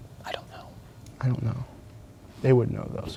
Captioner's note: whispering